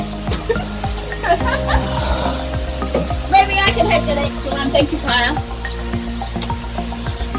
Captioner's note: whacks his hands on top of his lips as in shock